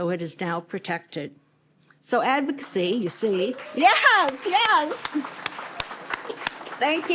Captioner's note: applause